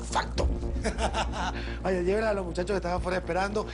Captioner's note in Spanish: Risas